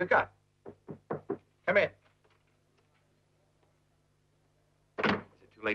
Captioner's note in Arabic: يطرق الباب